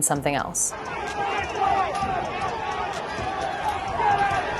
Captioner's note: rioters yelling